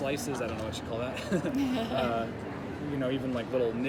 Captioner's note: chuckles